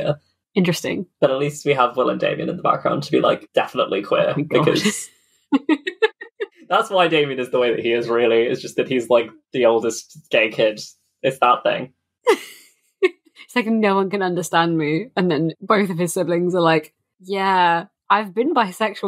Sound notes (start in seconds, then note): 4.4 laughs; 13.5 laughs